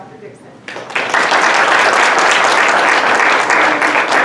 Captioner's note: applause